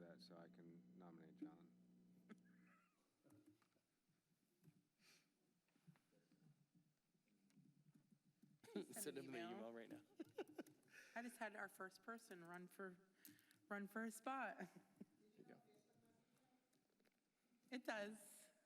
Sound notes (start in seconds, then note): 9.7 laughter